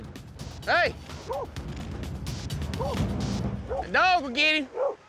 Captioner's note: dog barking